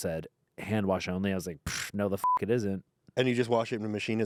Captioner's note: beep